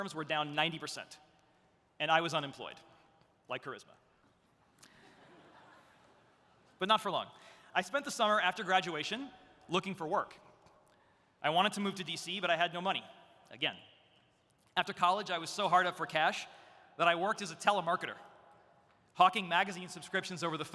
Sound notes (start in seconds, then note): 4.8 audience laughs